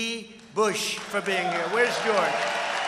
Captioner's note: applause